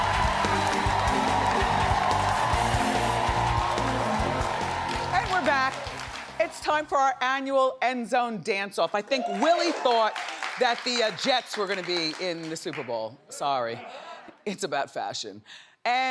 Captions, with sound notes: (dramatic music) (audience cheers) And we're back. It's time for our annual end zone dance off. I think Willie thought (audience cheers) that the Jet's were gonna be in the Superbowl. Sorry. (audience laughs) It's about fashion. And our dancers are on Zoom.